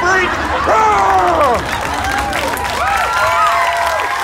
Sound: yells

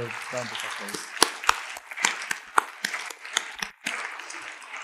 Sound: audience applauding

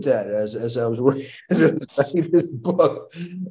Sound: chuckling

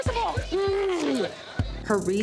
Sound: groaning

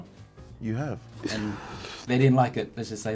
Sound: inhales histerically

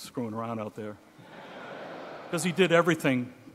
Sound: audience laughing

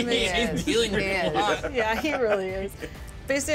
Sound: speaker laughs

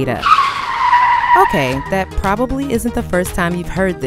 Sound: cars screeching

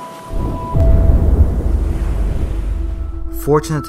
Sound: ominous thunder rumble

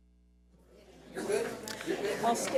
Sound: audience chattering

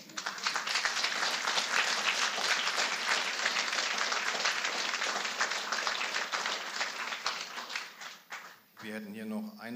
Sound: applause

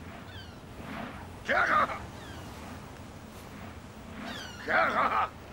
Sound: speaking foreign language

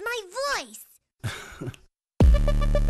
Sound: chuckles

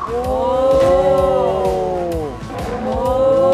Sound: exclaims

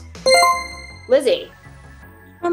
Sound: chime rings

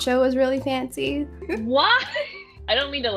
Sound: laughs

